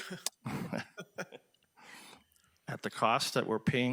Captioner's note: people laughing